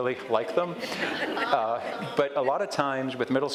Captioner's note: audience laughs